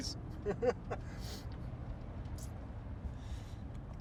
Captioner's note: Ray laughs